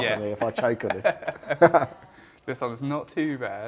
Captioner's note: laughs